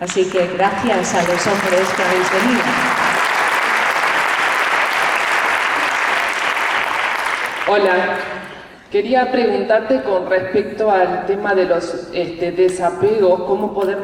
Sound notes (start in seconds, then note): 3.3 applause